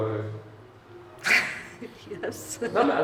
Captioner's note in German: kichert